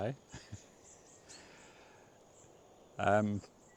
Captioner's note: laughs